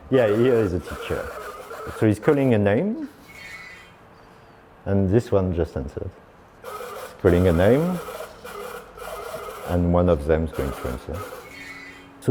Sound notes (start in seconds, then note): 0.0 robot trilling; 6.6 robot trilling